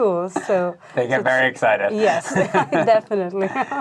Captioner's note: laughing